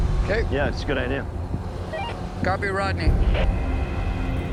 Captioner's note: walkie beeps